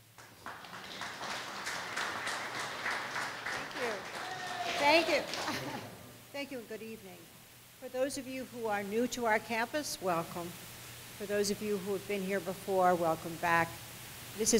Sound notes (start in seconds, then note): 0.0 audience applause; 5.4 laughs